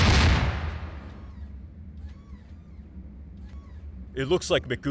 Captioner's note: really just so many explosions; mechanical whirring